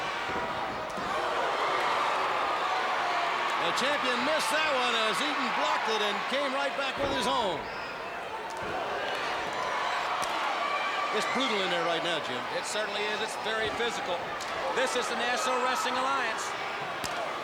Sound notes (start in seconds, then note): 4.9 crowd chatter; 10.0 crowd chatter